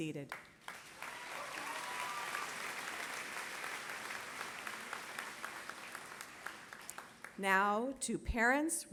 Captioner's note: applause